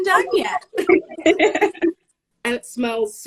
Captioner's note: laughing